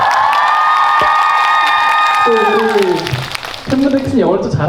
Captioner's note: applause for the world tour